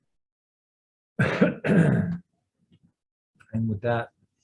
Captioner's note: coughs